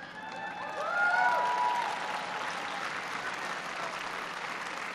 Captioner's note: applause